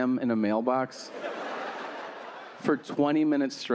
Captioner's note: audience laughing